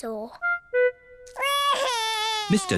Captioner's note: wails